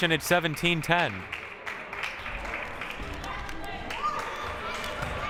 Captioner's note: crowd cheering and applauding